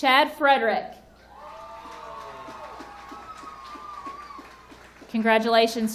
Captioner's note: audience cheering and applauding